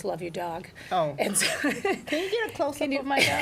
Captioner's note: laughs